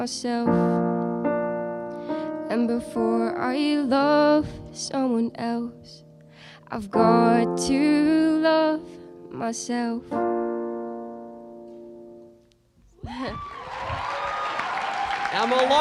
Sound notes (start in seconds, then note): 13.2 cheering; 13.2 applause